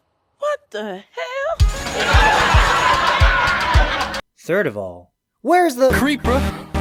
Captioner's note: “What the Hell” followed with a laugh track